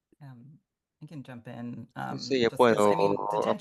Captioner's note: hablando inglés